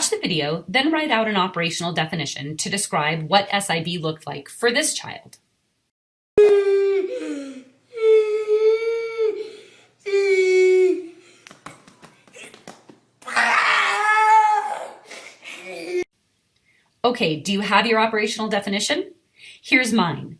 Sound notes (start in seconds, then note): 7.9 crying; 13.2 screaming